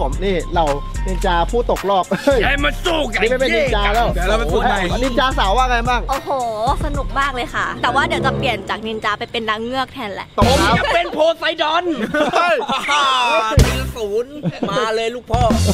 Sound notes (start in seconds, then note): 2.7 mumbling in Japanese; 13.1 laughs